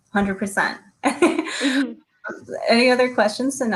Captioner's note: laughs